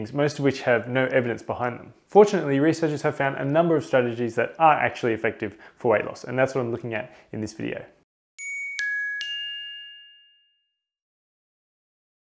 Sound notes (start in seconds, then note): 8.4 chiming